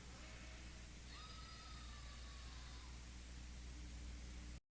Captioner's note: screaming